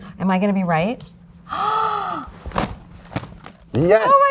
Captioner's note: gasping